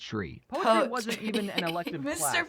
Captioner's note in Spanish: risa